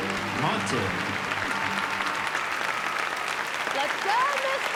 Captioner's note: cheering and applause